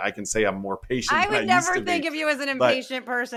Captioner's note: laugh